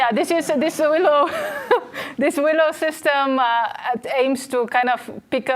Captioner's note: chuckles